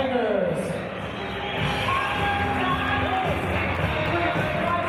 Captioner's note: cheers and applause